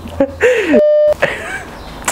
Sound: chuckling; beeping noise; quiet laughing

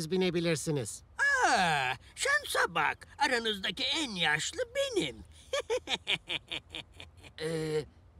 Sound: laughter

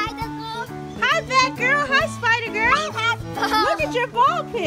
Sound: voiceover

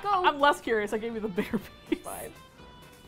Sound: laughs

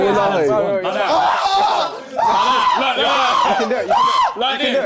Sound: JJ screaming

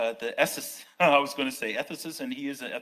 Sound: laughs

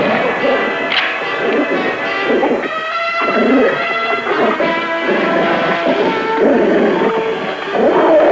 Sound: gunshot; gun clicking; wolf snarling; vicious snarling

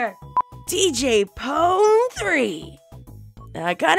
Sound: squeak

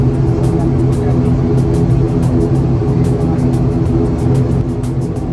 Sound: aircraft engine running

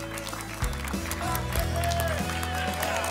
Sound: applause and cheering

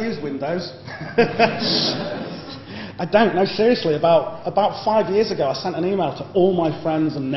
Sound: laughter

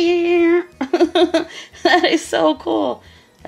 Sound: laughing

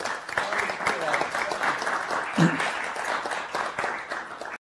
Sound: applause

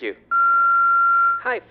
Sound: answer machine beeps

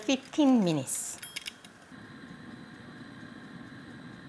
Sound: dial clicks

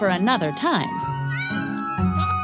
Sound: meow

